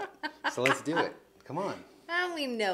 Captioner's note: snaps fingers